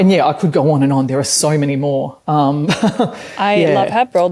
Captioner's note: chuckles